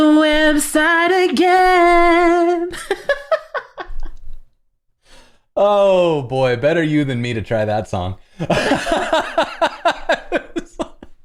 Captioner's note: laughter